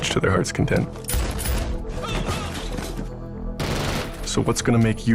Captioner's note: gunshot fires